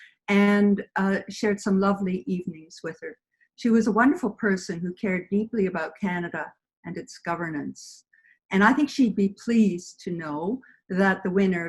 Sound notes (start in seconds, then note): none